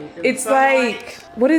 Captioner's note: murmurs